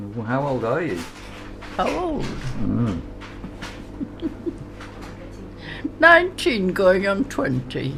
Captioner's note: laughs